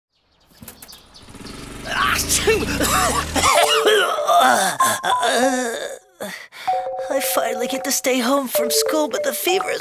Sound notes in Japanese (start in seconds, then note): 0.1 鳥のさえずり